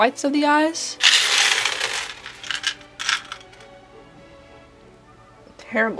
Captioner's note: buttons clattering, regretful silence